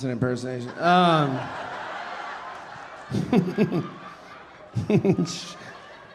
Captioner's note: audience laughing; laughing